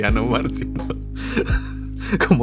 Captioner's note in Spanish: risas